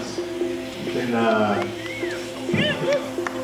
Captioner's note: whistle